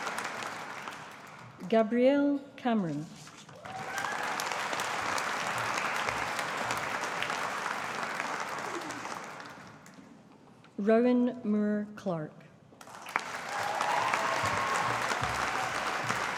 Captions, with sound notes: Gabrielle Cameron. (AUDIENCE APPLAUDING) Rowan Moore Clark. (AUDIENCE APPLAUDING)